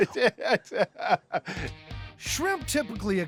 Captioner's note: chuckling